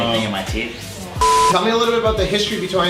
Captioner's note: beeps